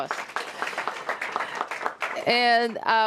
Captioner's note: applause